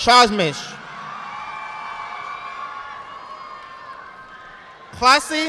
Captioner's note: audience applauding